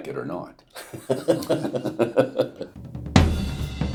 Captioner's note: laughter